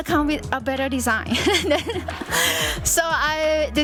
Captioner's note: laughs